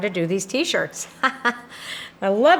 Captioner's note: chuckles